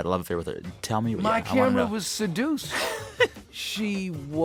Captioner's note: laughter